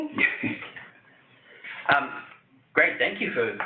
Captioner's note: chuckles